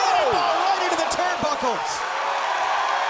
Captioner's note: crowd cheering; announcer speaking faintly off mic; crowd cheering